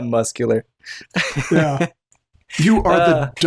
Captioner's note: chuckles